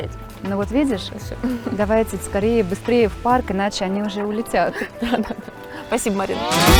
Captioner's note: laughing